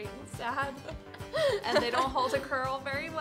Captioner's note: laughs